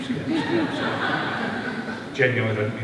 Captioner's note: laughter